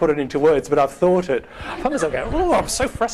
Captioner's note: groaning